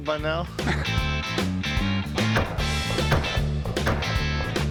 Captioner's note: echoing blasts